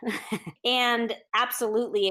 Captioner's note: chuckles